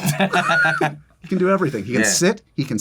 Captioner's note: laughter